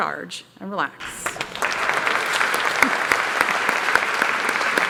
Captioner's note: applause